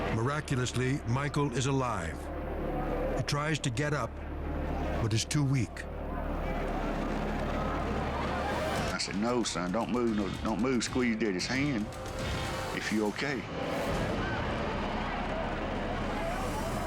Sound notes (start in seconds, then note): 5.5 crowd chatters; 13.6 crowd shouts